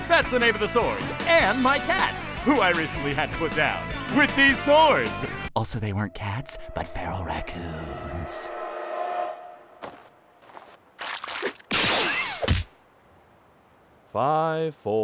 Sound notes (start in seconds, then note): 5.6 ominous music; 10.9 squish squish; 11.6 energy blast; 12.3 thud!